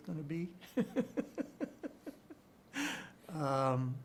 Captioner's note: chuckles